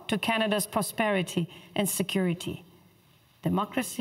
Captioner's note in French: voix de l'interprète